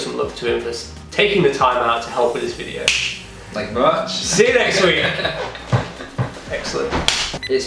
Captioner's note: laughter